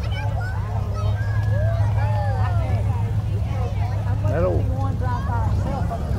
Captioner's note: children chatter; revving continues